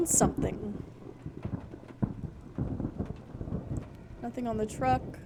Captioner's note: thunder Rumbling